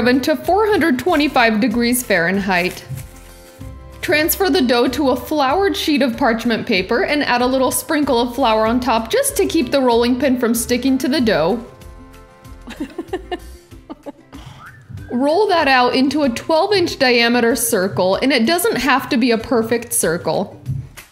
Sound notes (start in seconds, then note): 12.6 laughing loudly